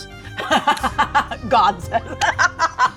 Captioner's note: laughs